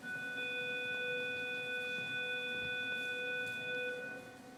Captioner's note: school bell buzzing